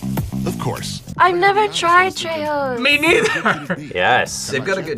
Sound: laughs

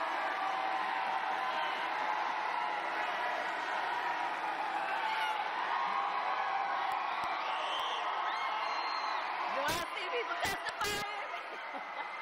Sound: cheers and applause

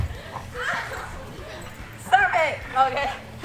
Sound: laughing

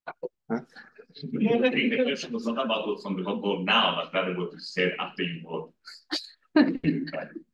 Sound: audio distorting

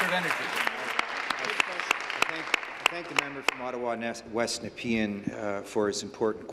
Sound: applause

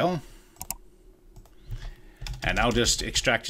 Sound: computer mouse click

